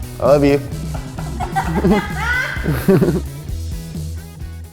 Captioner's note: laughs